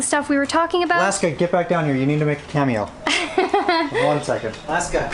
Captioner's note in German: lacht